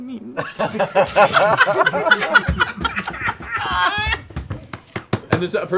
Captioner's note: laughter